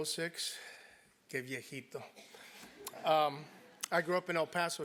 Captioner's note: laugh